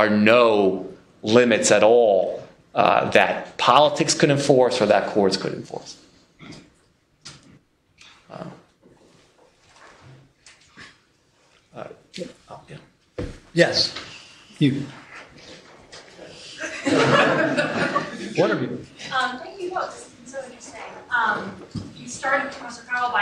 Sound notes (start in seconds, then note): 16.4 laughter